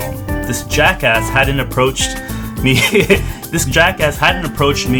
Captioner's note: laughs